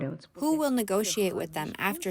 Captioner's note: through translator